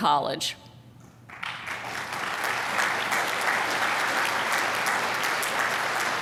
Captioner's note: applause